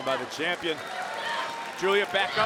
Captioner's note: crowd applauds